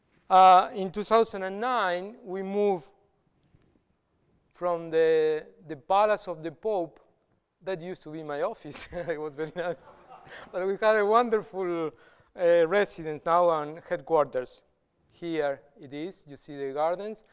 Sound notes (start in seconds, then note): 8.7 laughter; 9.4 chuckles